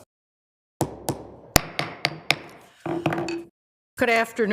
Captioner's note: strikes gavel